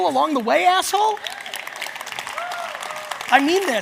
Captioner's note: audience cheers